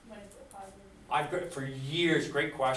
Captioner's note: voiceover